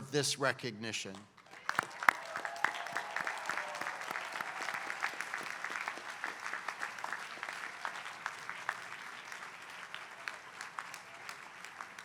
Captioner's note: applause